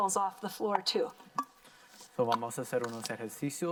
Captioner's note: cans clinking; in foreign language